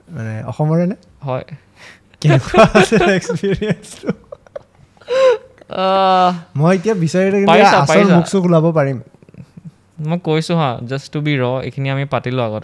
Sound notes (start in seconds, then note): 2.2 laughs